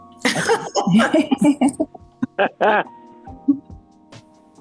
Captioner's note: women laughing